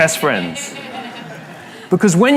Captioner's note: La audiencia se ríe